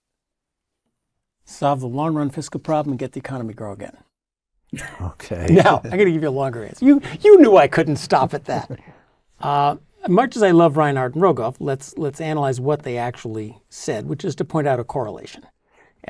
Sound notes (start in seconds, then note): 4.8 laugh